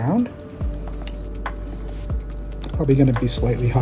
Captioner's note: gentle music continues; machine beeps